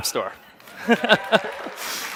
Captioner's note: audience claps; laughs